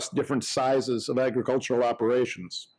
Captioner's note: none